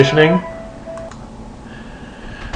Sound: phone ringing

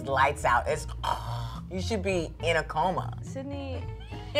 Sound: imitates snoring

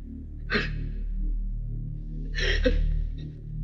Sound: sobbing

